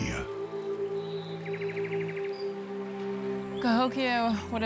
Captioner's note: birds chirping